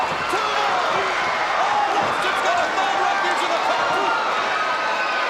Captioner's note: overlapping chatter